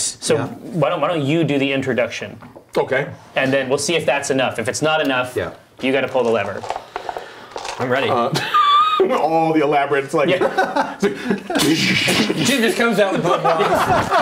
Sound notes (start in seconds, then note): 11.6 exploding noise; 13.9 laughing